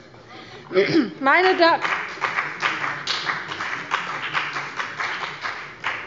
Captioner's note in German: Beifall bei dem BÜNDNIS 90/ DIE GRÜNEN